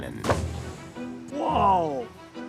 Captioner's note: plunking